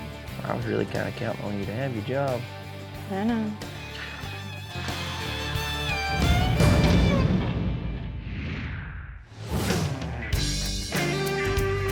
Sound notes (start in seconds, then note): 3.8 sighs